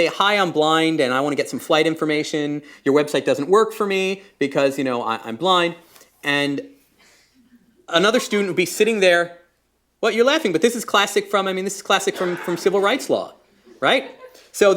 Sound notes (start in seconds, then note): 9.6 laughter